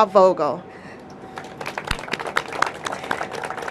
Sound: applause

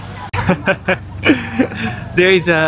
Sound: laughs

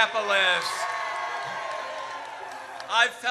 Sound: audience cheers

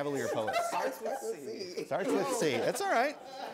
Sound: laughter

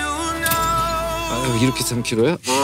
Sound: creak

